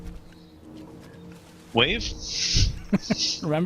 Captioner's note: laughs